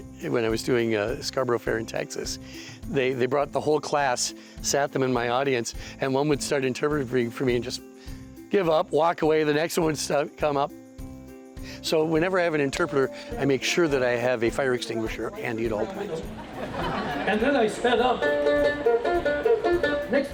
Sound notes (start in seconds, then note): 15.8 crowd laughs; 19.2 bright music